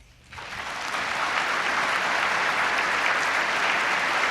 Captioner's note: applause